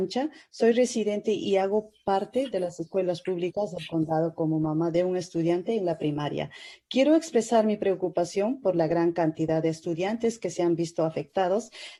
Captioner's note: spanish